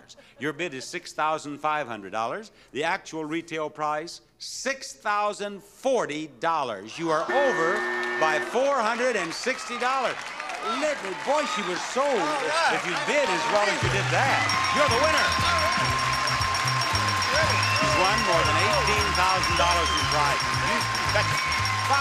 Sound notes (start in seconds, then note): 7.2 buzzer beeping; 14.3 bell ringing